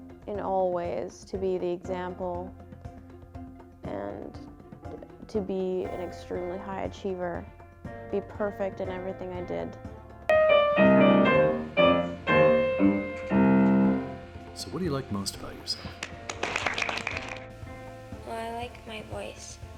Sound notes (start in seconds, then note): 10.3 pleasant piano music; 15.8 audience applauds